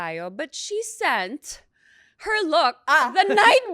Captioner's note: laughs